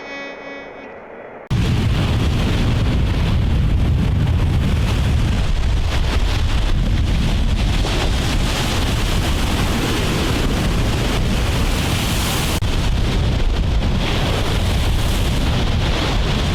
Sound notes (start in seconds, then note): 1.5 waves crashing; 1.5 wind blowing